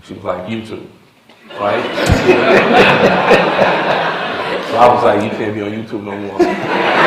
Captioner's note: laughter; laughter